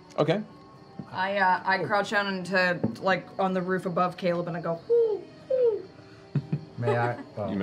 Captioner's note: bird coo